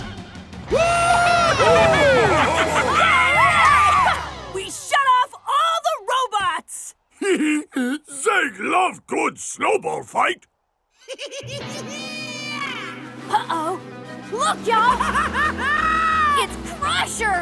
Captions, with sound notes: - Woohoo! - Alright! We shut off all the robots! [laughing] Zeg love good snowball fight. [giggling] Uh oh. Look, ya'll! [laughing] It's Crusher!